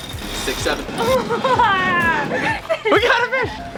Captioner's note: laughing quickly